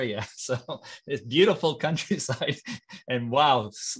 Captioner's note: chuckling